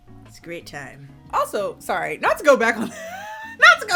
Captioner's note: laughs